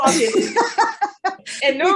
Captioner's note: laughs